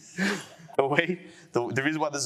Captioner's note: laughter